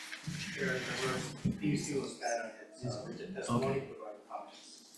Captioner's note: faintly speaking; representative faintly speaking